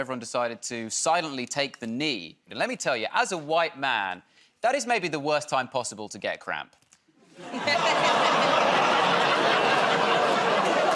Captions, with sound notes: where everyone decided to silently take the knee. Let me tell you, as a white man, that is maybe the worst time possible to get cramp. [ Laughter ]